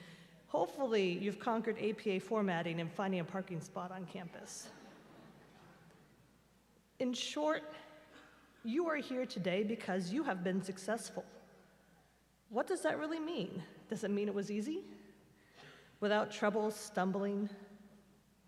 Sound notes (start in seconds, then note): 4.9 laughter